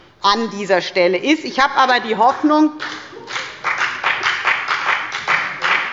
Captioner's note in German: Beifall bei der FDP